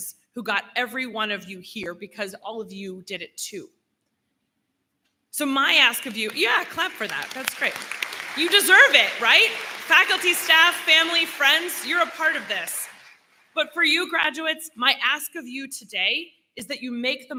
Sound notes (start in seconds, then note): 6.9 applause